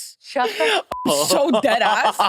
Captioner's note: beep